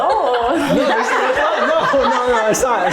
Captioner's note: everyone laughing